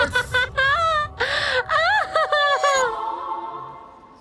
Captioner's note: crazy Laughter Resumes